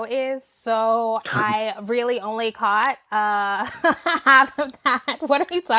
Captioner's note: laughing